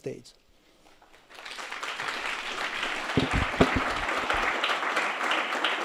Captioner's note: audience applauds